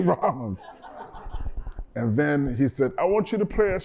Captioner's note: laughter